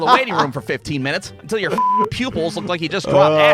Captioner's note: laughing; beep